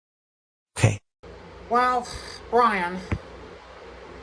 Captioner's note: sighs